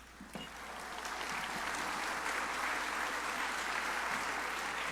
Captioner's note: crowd applauding